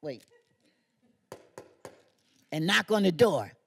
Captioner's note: knocking